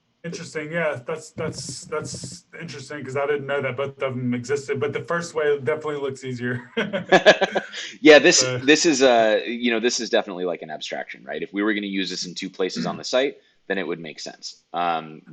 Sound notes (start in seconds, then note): 6.8 laughing